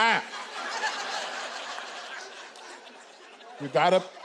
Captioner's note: audience laughing